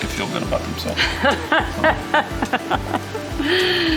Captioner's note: laughing